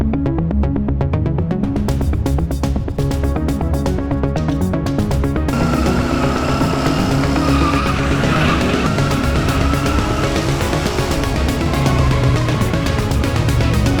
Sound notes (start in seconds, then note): 6.0 engines revving